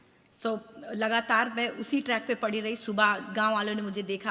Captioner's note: speaks foreign language